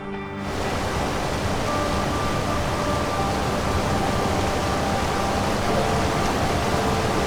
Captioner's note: water crashing; dramatic music